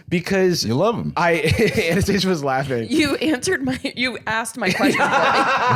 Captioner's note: laughs